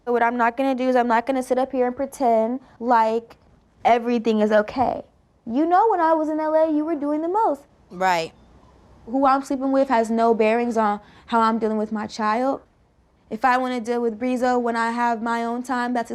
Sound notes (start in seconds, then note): none